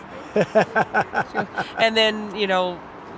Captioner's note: laughing